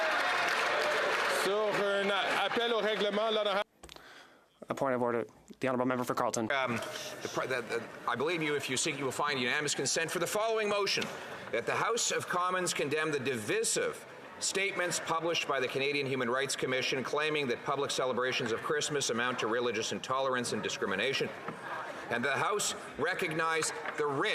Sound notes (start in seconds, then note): 0.0 applause; 7.3 speaking French